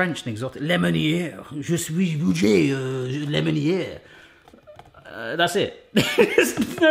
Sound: speaking in foreign language; laughs

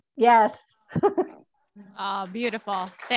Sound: chuckles; applause

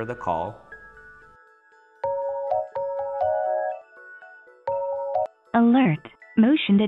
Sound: phone ringing

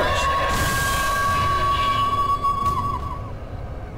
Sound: banshee cry

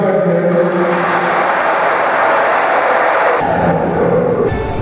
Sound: applause

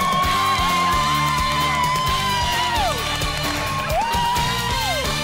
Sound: cheering; dramatic music

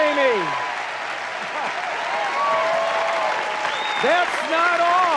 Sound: audience cheers and applauds

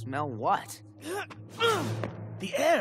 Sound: grunting

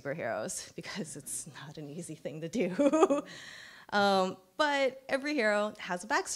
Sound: chuckles

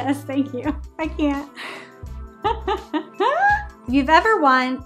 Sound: laughs

